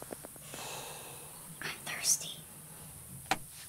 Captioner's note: Whispers